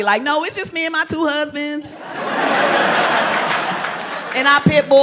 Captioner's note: crowd laughs